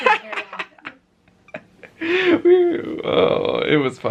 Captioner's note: chuckling